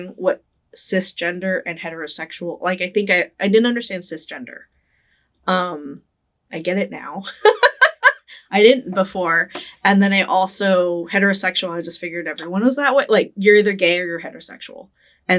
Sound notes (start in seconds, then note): 7.4 laughing